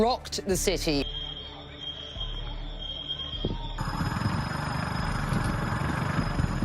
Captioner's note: alarms